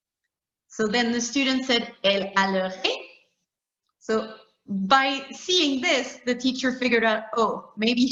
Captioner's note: talking in French; talking in French